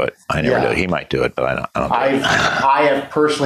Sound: laughs

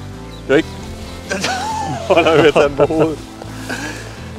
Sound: laughter

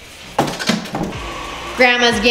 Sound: object clashes

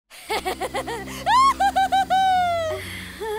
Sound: laughs; nervous chuckle

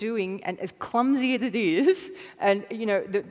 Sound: giggle

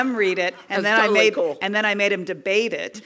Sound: laugh

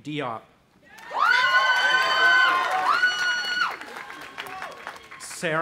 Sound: audience applauding and cheering

